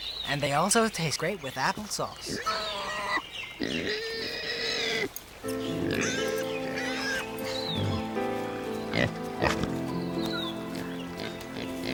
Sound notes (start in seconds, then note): 3.5 pig squeals; 5.4 serene music